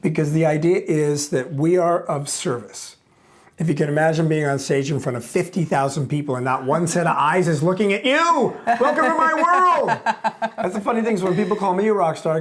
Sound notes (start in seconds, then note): 8.6 chuckles